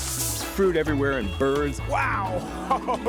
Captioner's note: laughs